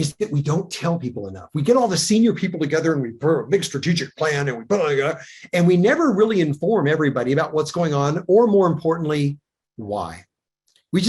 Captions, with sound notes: is that we don't tell people enough. We get all the senior people together and we, brr, big strategic plan and we (speaks gibberish) and we never really inform everybody about what's going on, or more importantly, why.